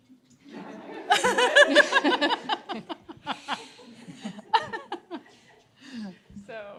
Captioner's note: laughter